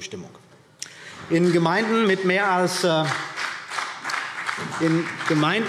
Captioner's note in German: Vereinzelter Beifall CDU und BÜNDNIS 90/DIE GRÜNEN